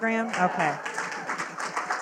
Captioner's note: audience claps